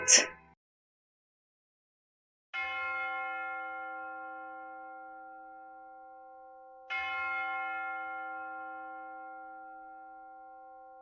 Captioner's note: bells